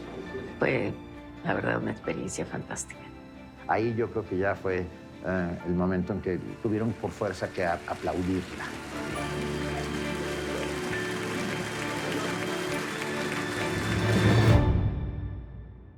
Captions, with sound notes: It was a truly fantastic experience. I think there came a point when they had no choice but to applaud. [applause] -[music builds] -[applause continues] [music stops]